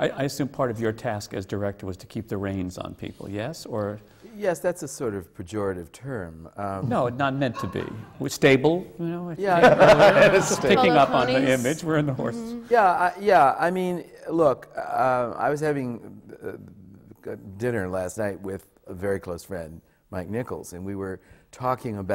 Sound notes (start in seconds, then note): 6.8 laughter; 9.4 laughter